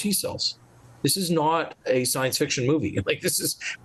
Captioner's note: chuckles